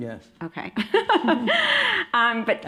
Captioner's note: laughing